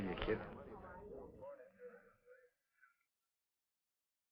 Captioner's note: chattering